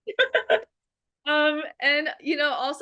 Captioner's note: laughter